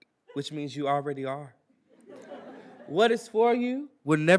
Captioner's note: attendees laughing